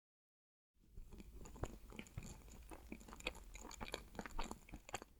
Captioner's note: eating sound